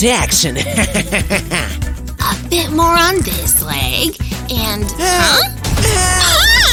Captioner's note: evil laughter